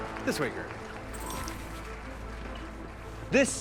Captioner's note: audience applauding